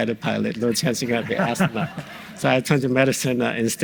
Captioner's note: audience laughs